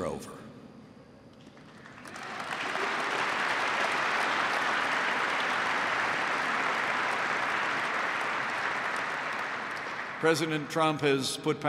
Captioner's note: applause